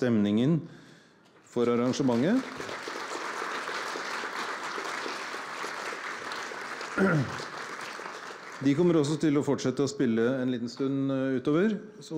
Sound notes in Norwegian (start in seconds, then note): 1.4 Applaus